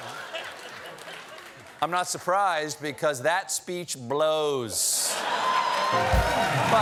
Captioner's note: laughter